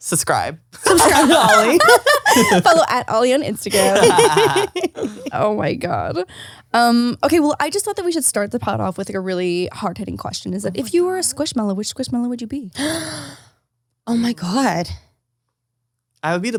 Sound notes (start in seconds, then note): 0.8 all laugh; 3.7 laughs; 12.8 gasps